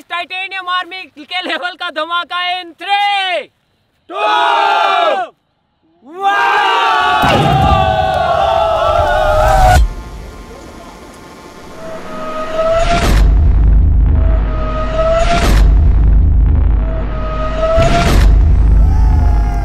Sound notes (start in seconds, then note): 7.2 explosion; 12.5 explosion; 17.3 drums explode